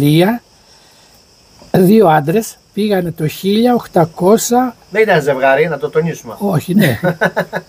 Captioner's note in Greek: γέλιο